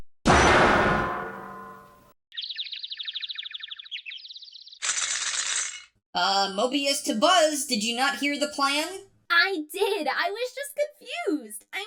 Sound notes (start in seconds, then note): 2.3 tweeting